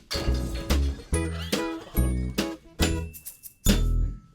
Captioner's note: glass shatters